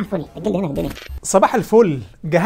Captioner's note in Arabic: تَهَكُّم; تَهَكُّم